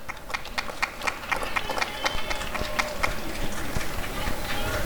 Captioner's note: applause and cheering